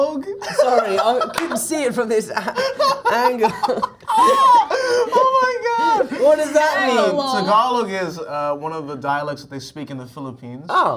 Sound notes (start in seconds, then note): 0.4 laughs; 2.4 all laughing; 6.9 mispronouncing